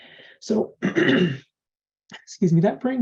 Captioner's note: clears throat